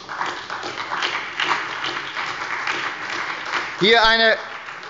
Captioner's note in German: Beifall bei der SPD